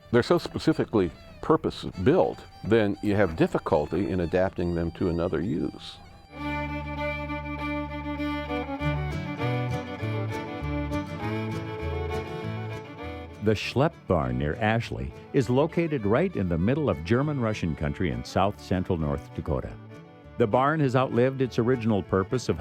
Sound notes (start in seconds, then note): 13.7 voiceover